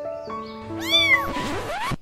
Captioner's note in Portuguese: o gato mia